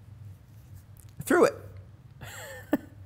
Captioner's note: chuckling